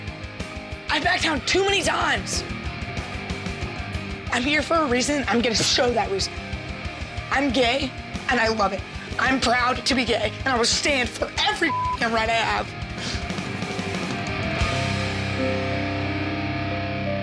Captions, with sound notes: I backed down too many times. I'm here for a reason, I'm going to show that reason. I'm gay and I love it. I'm proud to be gay, and I will stand for every (beep) I have. (upbeat music)